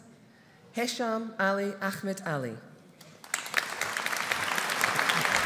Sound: audience applauding

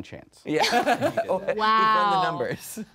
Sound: laughing

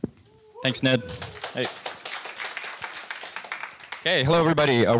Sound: applause

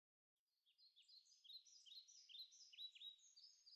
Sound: chirping

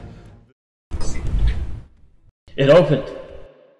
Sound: door opening

